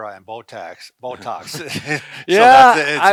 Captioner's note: chuckles